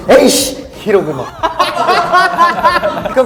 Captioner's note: laughing